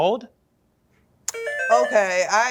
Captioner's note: buzzer